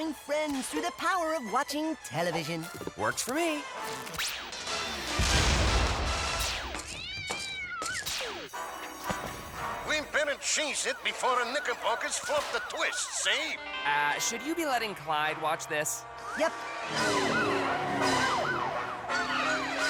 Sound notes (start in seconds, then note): 5.1 explosion; 6.7 cat screeches; 9.5 old-timey 1930s accent; 16.0 sirens wail